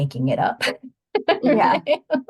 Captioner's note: laughing